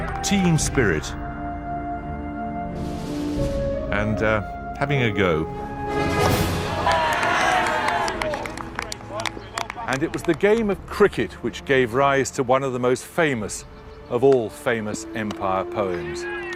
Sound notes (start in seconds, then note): 6.6 boys cheering